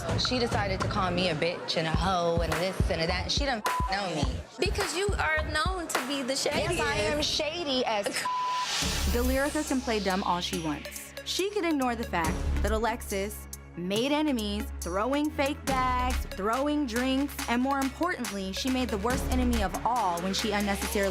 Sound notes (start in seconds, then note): 3.6 beep; 8.2 beep